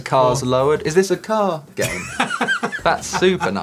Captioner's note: laughter